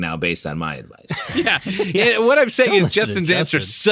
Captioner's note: laughter